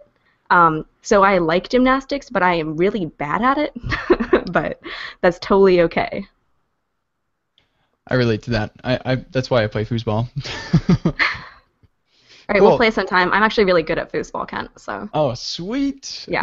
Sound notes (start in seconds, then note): 10.4 laughter